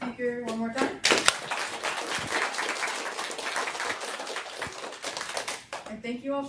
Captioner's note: applause